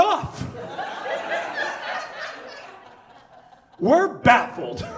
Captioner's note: audience laughs